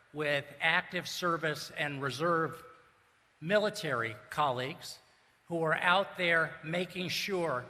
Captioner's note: none